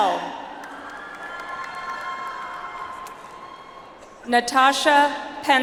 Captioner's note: audience applauds